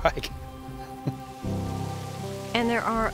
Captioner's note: water rushes